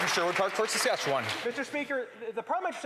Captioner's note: applause